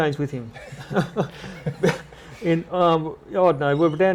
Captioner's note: laughter